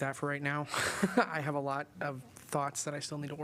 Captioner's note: laughter